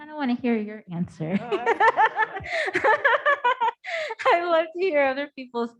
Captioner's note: both laughing